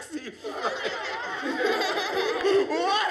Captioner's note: laughter